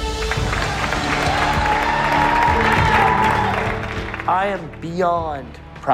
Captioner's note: cheers and applause